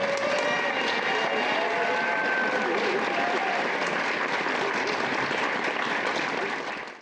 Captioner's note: applause